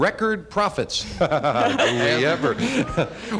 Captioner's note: laughter